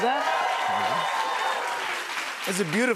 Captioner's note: cheers and applause